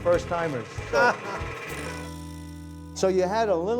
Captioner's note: laughing